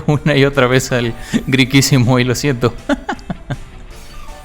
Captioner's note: laughs in Big Cat